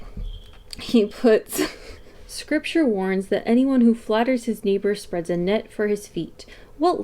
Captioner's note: laughs